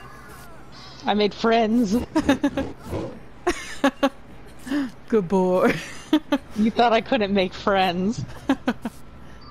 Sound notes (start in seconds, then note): 1.7 laughs again; 1.8 laughs, Pig growls repeatedly; 5.9 continues laughing